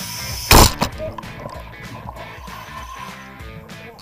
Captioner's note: hose pops